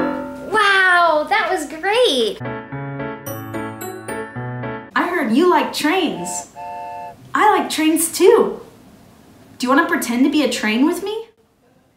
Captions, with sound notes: Wow, that was great! (lively piano music) - I heard you like trains. (train honks) I like trains too! Do you wanna pretend to be a train with me?